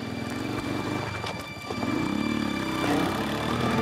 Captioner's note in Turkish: Motor sesi